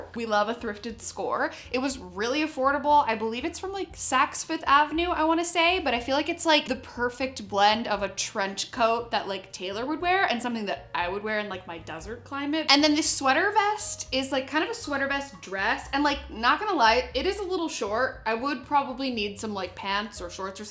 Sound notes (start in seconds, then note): none